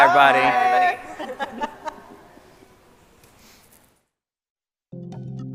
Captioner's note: scientists laughing; upbeat music